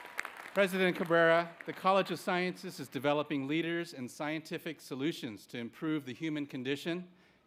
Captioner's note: cheering